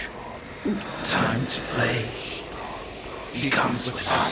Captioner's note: Demonic voice